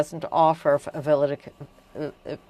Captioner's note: speaking French